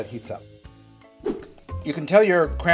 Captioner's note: air whooshing